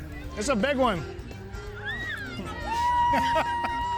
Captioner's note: kids cheering